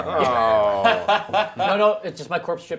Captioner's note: group laughs